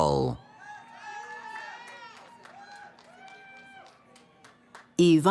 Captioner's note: cheering